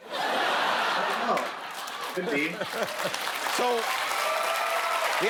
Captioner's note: laughter; cheers and applause